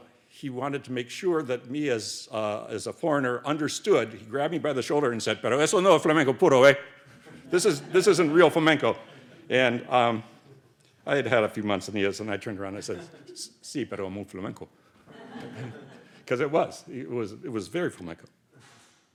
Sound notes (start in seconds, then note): 6.8 speaks Spanish; 13.8 speaks Spanish